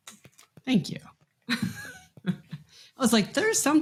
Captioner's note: laughs